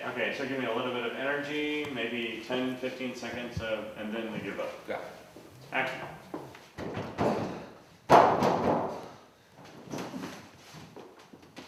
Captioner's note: lots of banging